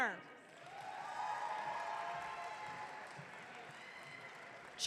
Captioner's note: audience cheering